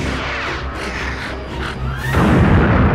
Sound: panting; explosion

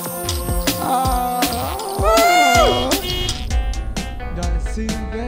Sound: car horn

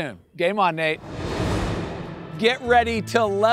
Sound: air whooshing

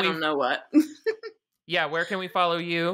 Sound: laughing

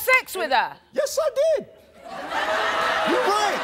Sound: audience laughing

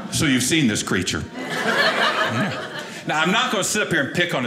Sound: audience laughing

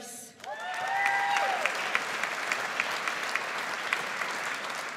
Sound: audience applauds

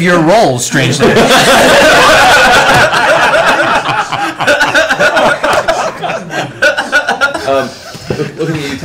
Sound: laughter

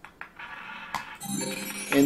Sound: ball rolling; successful chime

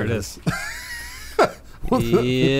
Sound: laughing

